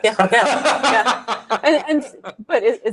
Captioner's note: laughter